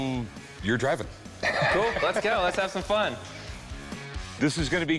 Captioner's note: laughs